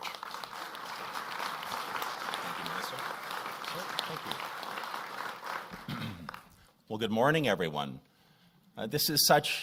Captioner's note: applause